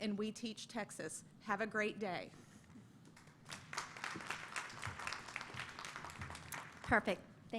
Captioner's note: applause